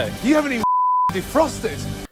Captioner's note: beep